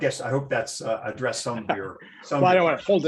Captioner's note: laughter